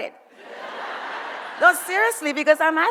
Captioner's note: audience laughs